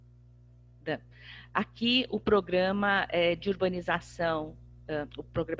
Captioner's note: speaking portuguese